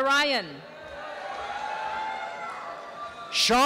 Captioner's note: applause and cheering